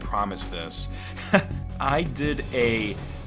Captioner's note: chuckles